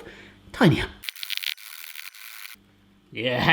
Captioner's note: metal scraping